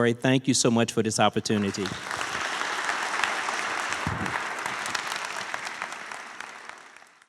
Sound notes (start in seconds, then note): 1.4 applause